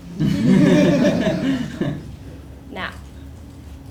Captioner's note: laugh